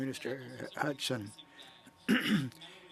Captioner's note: speaking french